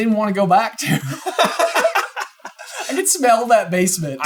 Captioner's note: laughing